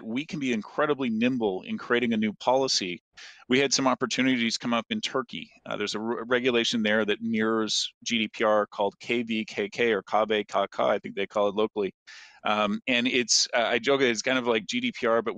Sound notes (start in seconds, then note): 10.1 speaks in foreign language